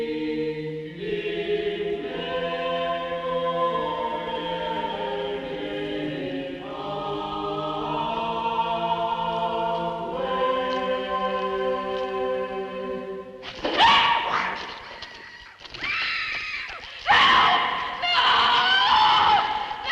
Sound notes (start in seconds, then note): 15.7 muffled scream